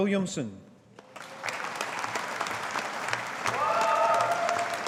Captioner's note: audience applauding